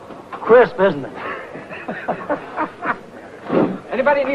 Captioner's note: happy laughing